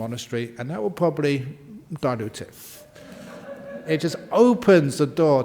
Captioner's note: laughter